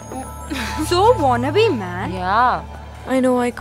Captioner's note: Sighs